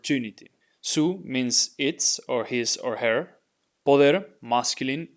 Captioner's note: speaking in Spanish